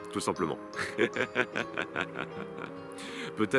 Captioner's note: laughs